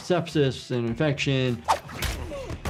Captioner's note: screen swooshing; object thudding; person shouting